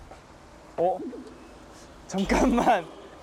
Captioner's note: hesitates